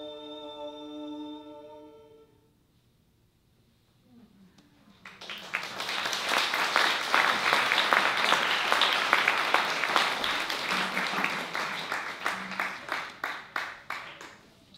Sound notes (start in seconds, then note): 4.1 applause